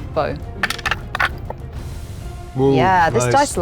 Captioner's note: dice rattling